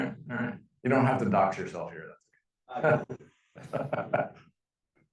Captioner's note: laughing